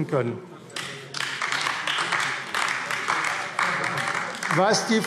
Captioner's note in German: Beifall AfD